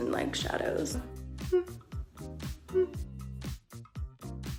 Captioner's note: humming